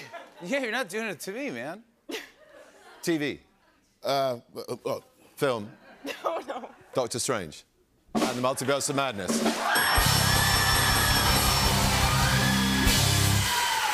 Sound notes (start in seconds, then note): 9.4 cheers and applause; 9.8 bell dinging